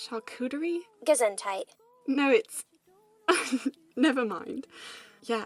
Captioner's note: Lily laughs